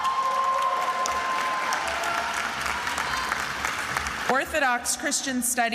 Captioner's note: attendees applauding and cheering